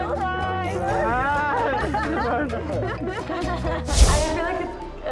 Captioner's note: everyone laughs